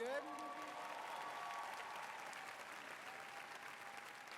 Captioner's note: applause